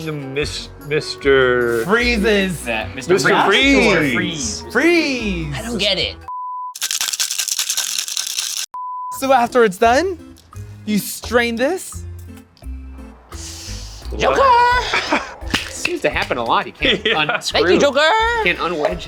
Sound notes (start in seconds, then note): 6.8 beep; 16.9 laughs